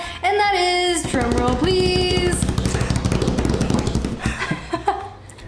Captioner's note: laughter